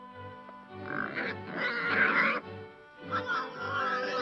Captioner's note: pig snorting